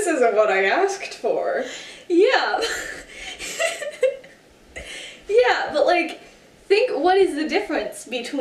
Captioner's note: laughing